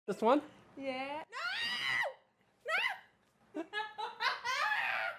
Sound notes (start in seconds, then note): 1.3 screaming; 3.6 laughing